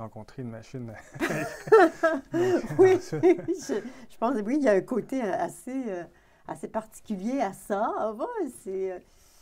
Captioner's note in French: rire